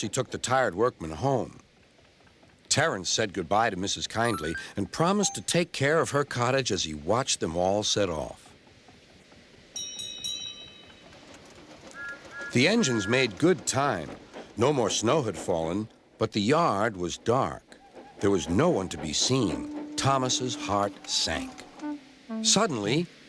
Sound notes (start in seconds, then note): 9.8 bell dings; 11.9 whistling